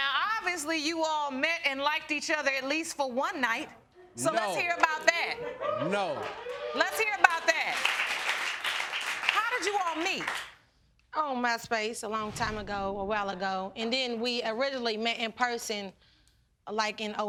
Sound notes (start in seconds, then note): 6.5 audience cheering